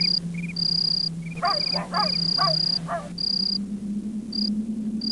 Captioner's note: dog barking